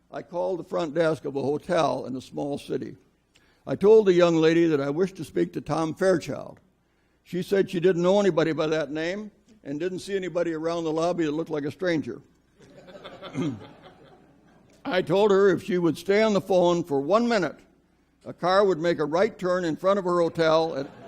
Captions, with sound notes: I called the front desk of a hotel in a small city, I told the young lady that I wished to speak to Tom Fairchild, she said she didn't know anybody by that name, and didn't see anybody around the lobby that looked like a stranger. (audience laughs) I told her if she would stay on the phone for one minute, a car would make a right turn in front of her hotel,